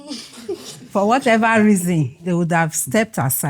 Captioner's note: laughs